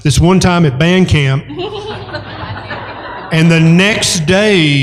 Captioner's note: laughter